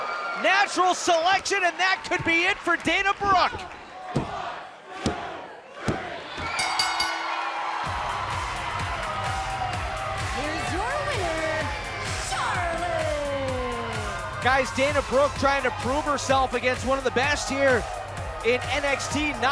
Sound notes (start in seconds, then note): 6.5 bell; 8.5 cheers & applause